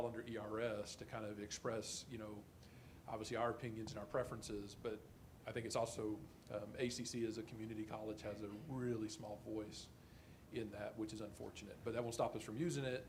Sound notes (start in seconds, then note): none